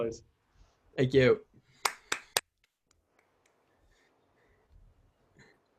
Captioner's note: claps